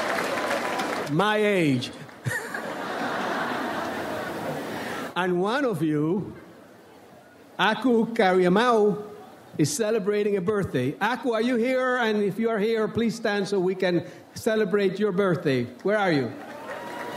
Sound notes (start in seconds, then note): 2.2 audience laughs